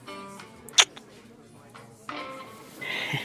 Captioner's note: Smooch